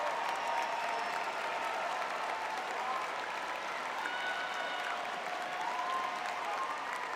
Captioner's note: applause; audience cheering